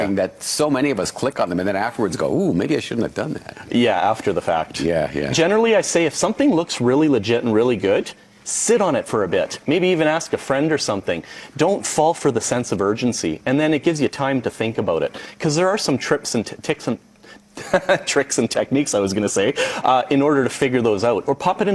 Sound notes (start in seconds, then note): 17.6 laughs